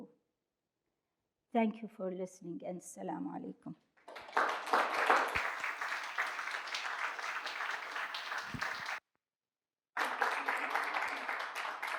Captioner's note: applause